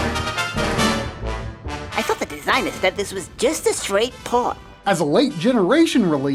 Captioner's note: game audio